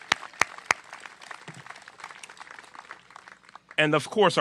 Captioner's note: applause